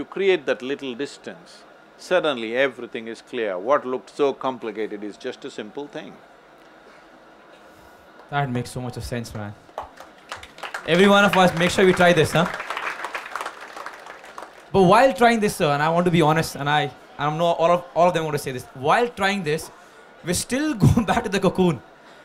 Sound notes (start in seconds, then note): 13.8 applause